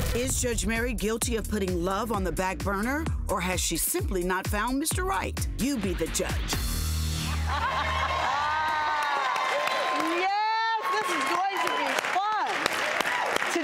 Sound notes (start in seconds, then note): 7.1 laughing and cheering